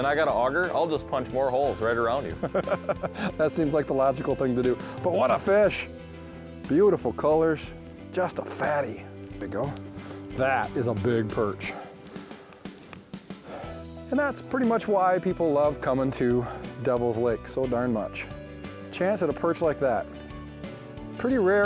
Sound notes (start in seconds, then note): 2.2 laughs